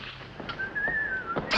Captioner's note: Purser on SS Nyanga whistling